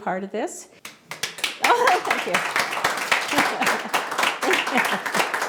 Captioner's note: audience applauding; laughs